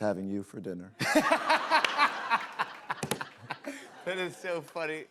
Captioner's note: laughter